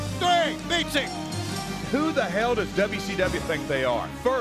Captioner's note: bell ringing